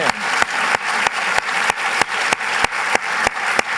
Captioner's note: applause